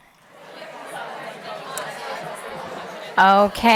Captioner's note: participants chattering